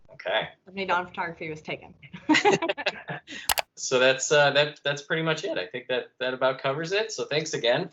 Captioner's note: laughter